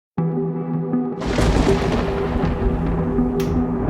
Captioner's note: thunder rumbling